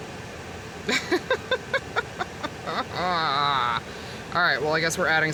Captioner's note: descending to madness giggle